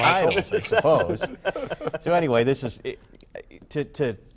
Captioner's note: laughter